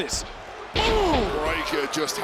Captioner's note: body thudding